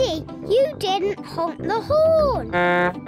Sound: honks horn

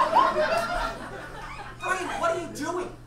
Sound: audience laughs

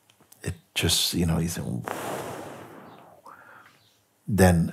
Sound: long exhale

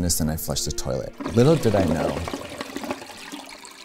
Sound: toilet flushing

